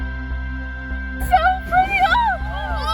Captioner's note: excited young voice